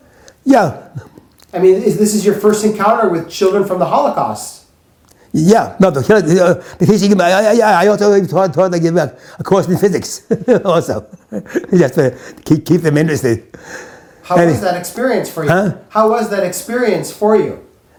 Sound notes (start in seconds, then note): 9.5 chuckles